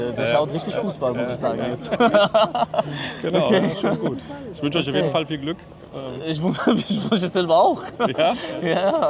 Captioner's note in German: gelächter